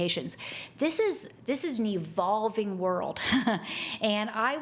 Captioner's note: chuckles